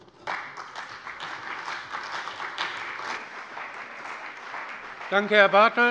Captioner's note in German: Beifall bei der CDU und dem BÜNDNIS 90/DIE GRÜNEN